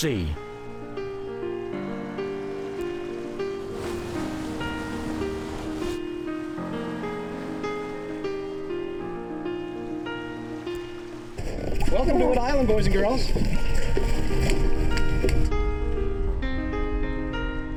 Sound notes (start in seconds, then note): 0.3 cheerful mid-tempo piano music; 2.2 powerboat splashing